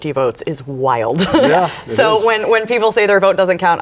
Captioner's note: laughs